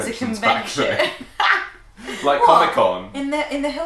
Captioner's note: laughing